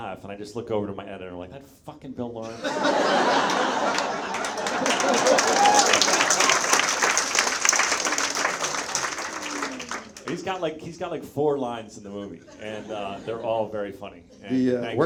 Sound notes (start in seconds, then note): 2.4 audience laughs; 4.2 Bill laughs; 5.2 audience members applaud